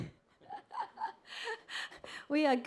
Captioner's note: laughs